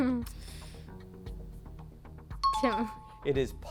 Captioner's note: high-pitched tones